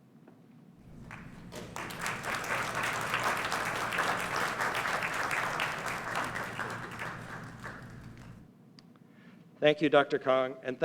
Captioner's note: applause